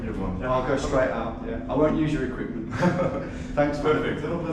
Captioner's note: chuckles